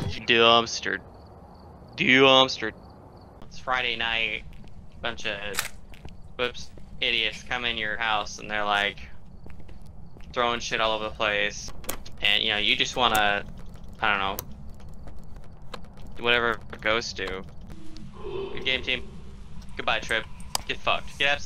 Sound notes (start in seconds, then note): 5.6 camera clicks; 17.8 ghost exhales as it kills Trip